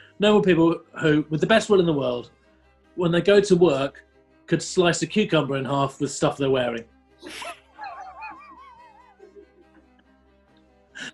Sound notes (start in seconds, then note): 7.3 sniggering